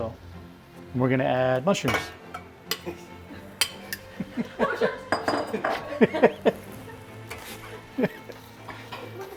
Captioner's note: production team laughing in the background